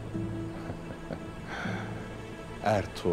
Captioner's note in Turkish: Gülme sesi